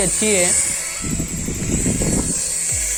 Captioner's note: flying Wind Sound